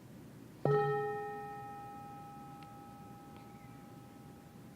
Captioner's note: bell chiming